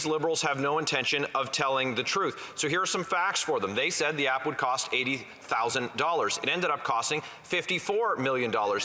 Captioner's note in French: voix de l'interprète